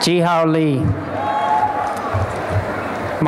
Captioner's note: applause and cheering